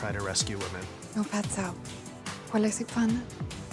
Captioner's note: speaking mandarin